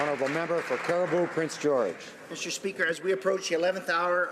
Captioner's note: applause